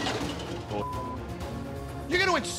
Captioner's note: beep